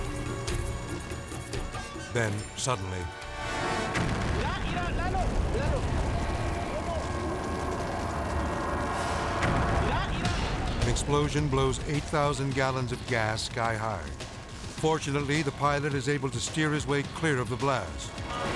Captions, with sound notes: Then suddenly- (explosion booms) (people shout in foreign language) (explosion booming) An explosion blows 8,000 gallons of gas sky high. Fortunately, the pilot is able to steer his way clear of the blast.